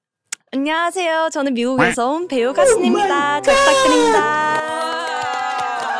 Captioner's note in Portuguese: Coreano